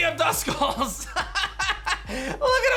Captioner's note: laughs